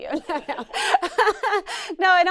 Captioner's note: laughs